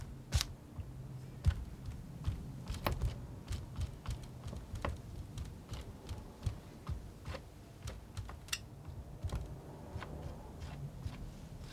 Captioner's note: scratching